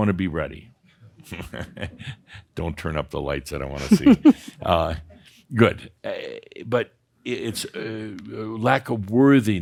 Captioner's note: Adamus chuckles